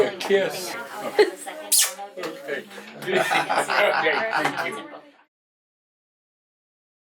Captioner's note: laughing